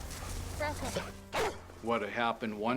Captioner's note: barks